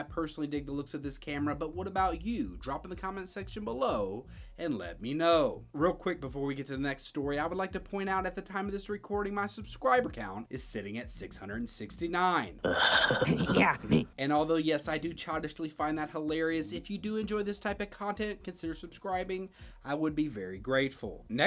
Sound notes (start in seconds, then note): 12.6 groaning